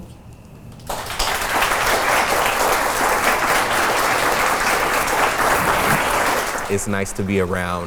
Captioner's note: applause